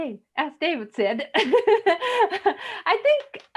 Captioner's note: laughs